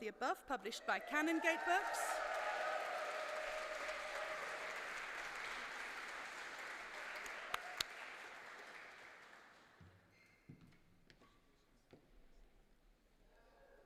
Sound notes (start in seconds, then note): 1.0 applause